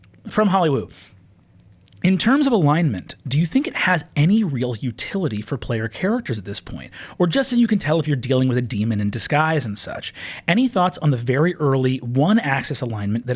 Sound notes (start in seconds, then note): none